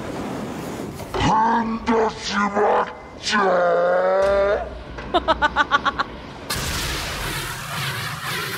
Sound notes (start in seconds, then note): 5.0 chuckles